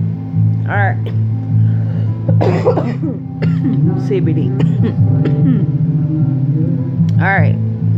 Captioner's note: cough